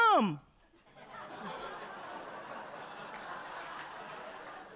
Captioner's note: audience laughing